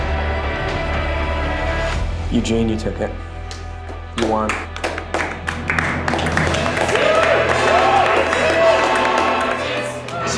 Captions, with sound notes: (suspenseful music) Eugene, you took it. You won. (group applauds) (group cheers) (singers singing dramatically in Latin)